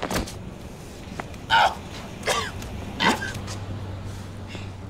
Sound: grunts, coughs

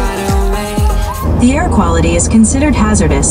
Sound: computerized Voice

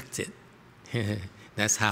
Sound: laughter

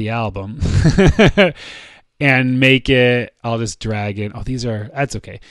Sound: chuckles

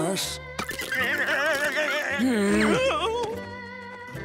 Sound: groaning

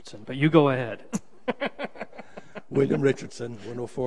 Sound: laughs

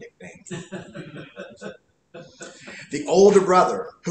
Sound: laughter

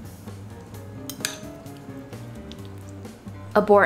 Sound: jazzy instrumental music; food squishing; fork clinking

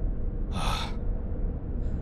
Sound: sigh

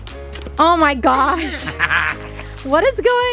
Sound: laughs

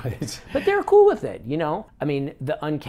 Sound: chuckles

